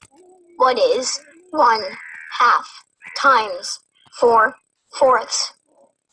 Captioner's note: voiceover